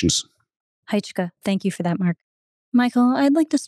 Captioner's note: speaking an Indigenous language